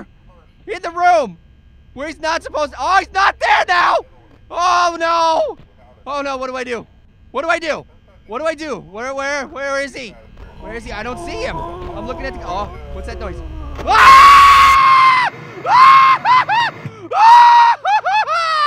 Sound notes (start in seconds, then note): 11.8 eerie groaning; 14.1 screaming